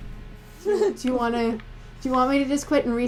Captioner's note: laughter